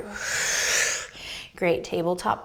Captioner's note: exhaling